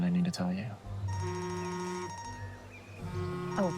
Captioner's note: phone vibrates